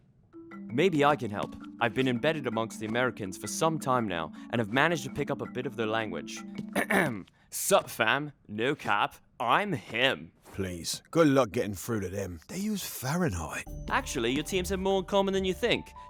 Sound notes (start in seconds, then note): 6.7 clears throat